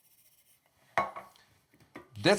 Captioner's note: spices shaking; cup taps counter